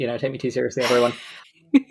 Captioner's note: laughs